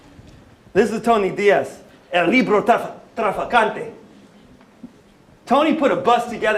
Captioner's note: non-english speech